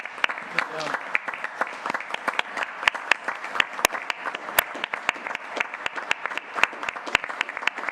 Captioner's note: applause